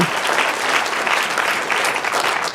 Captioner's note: applause